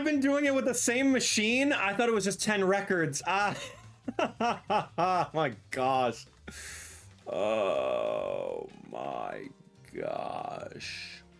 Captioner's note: laughing